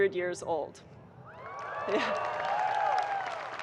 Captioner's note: audience cheering and applauding